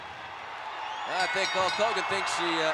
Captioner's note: ring bell dinging